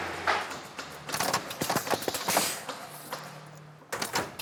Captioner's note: clacking, then a hissing